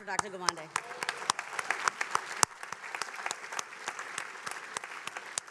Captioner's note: attendees applauding